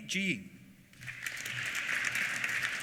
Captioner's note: applause